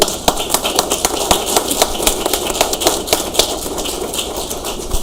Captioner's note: audience applauds